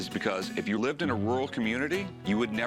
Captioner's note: none